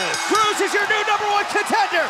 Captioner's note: bell